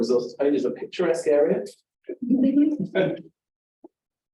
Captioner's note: audience Chuckling